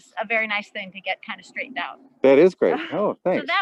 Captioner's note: laughs